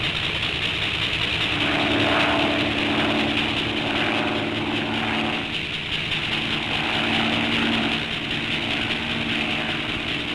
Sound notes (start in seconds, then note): 2.1 plane rumbling